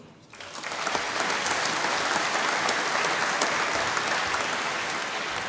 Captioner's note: applause